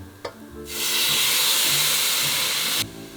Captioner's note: steaming